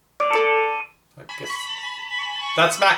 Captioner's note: speaker chimes